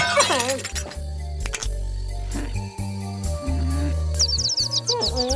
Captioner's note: glass breaking; light clicks; birds tweeting